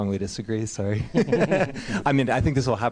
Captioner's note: laughter